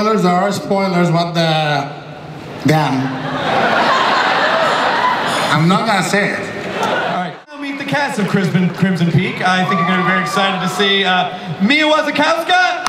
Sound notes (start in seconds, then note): 2.9 audience laughs